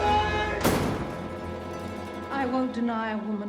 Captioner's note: door slams shut